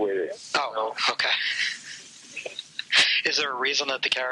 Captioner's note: laughs